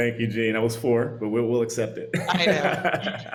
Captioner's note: laughs